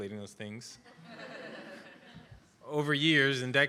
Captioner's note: laughter